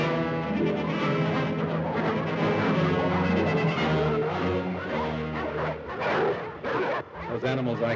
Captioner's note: suspenseful music; dogs barking; suspenseful music